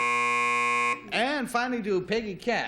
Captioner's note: buzzer